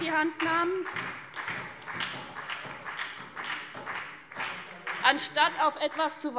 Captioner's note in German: Beifall SPD